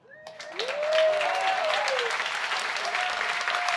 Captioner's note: applause